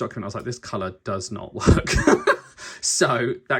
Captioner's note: laughs